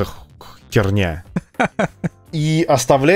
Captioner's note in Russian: Смех